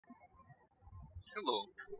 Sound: birds chirping

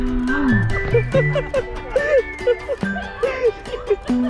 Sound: laughing

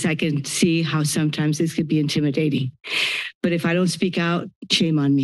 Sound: inhales

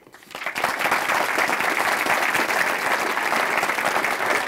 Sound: audience clapping

